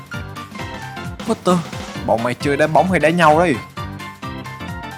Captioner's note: street brawl